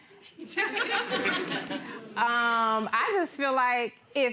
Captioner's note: crowd laughs